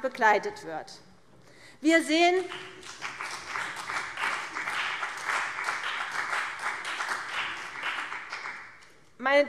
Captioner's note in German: Beifall CDU und vereinzelt BÜNDNIS 90/DIE GRÜNEN